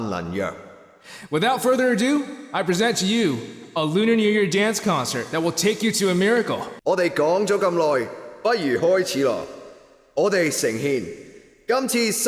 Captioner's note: translates in cantonese